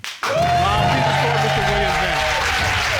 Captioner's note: audience cheers